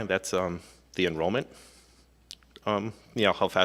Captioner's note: none